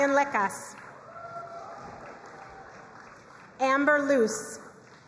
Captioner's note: crowd cheering and applauding